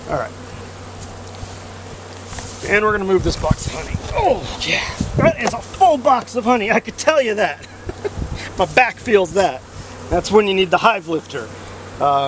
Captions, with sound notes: All right, and we're gonna move this box of honey. Oh, geez, that is a full box of honey, I can tell you that! (laughs) My back feels that! That's when you need the hive lifter.